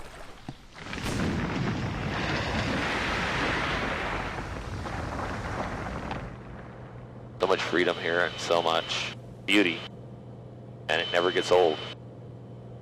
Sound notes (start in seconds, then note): 0.0 background - Insects buzzing, birds singing,water splashing; 0.8 background - Glacier Ice falling. Loud Splash